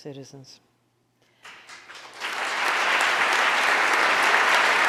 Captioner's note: audience applauding